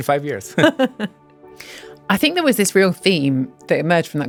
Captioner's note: laughs